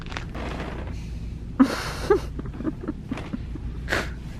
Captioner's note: laughter